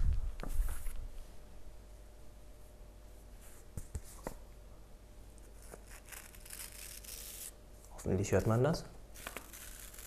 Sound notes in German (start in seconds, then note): 5.8 kratz